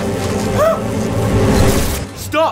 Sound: girly scream

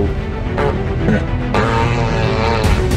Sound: dinner fart

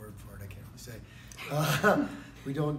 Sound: laugh

